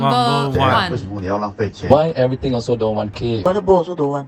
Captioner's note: in Mandarin